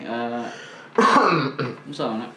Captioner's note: coughs in Bisaya